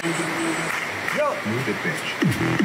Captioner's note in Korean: 짝짝